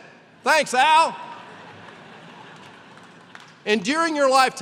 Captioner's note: laughter